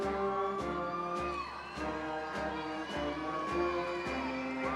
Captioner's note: audience member whooping